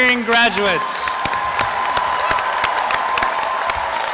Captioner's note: applause and cheering